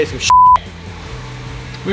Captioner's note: beep